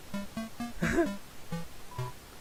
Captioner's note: chuckling